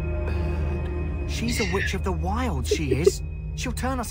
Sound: laughter

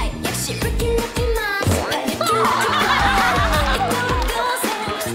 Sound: thud!

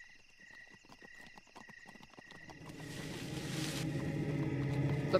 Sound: bushes rustling

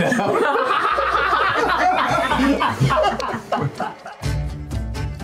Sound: laughter

